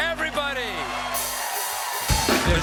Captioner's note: cheers and applause